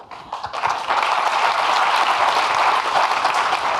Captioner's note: audience clapping